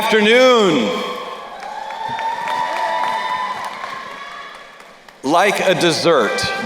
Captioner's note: crowd cheering and applauding